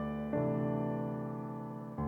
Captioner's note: none